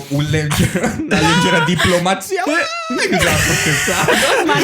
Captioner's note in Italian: fake screaming